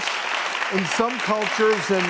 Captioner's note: clapping